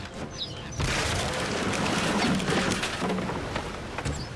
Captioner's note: wood crashing